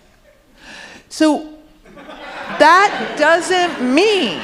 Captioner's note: audience laughing